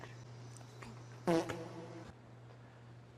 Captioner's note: sad poot sound